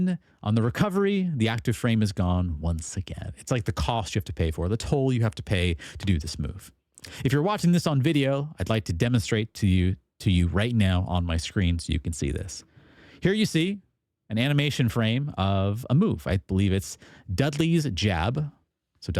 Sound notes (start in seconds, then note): none